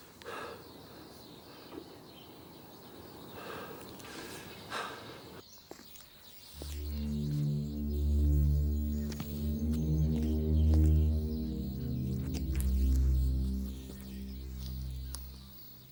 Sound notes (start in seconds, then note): 2.1 birds chirping; 8.0 suspenseful music